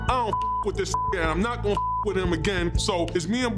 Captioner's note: beep